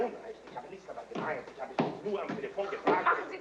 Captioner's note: people arguing in foreign language